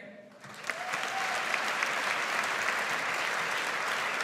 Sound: audience applauds

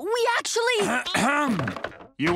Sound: Lynn Sr. clears his throat

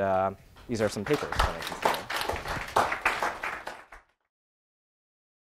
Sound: applause

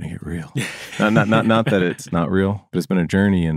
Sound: laughter

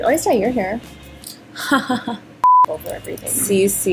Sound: laughs

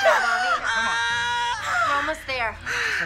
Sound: screams

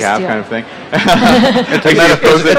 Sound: laughter

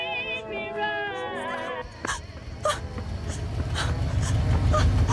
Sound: Stephanie panting, gasping

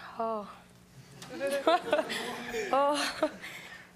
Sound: laughing

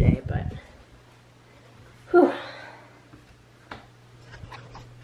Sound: sigh

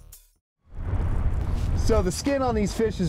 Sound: roaring fire

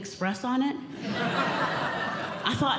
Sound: audience Laughing

